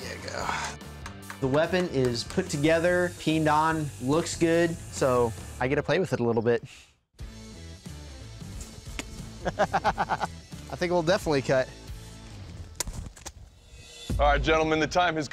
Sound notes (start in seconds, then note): 9.4 laughs